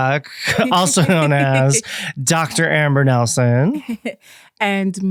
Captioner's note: laughs